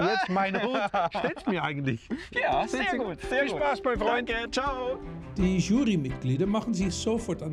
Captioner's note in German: gelächter